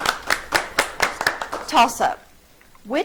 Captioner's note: audience clapping